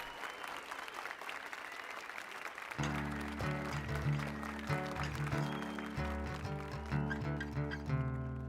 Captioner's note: applause and cheers